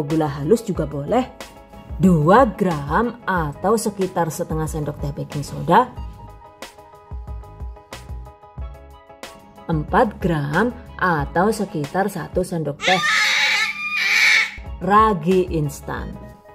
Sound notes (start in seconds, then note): 12.8 baby’s Cry